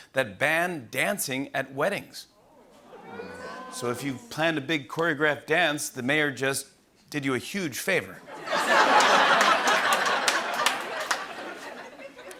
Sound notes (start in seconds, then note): 2.9 grumbling; 8.3 laughter and applause